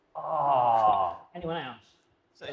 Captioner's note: groans